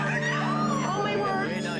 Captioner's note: people screaming